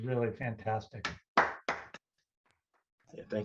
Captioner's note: clapping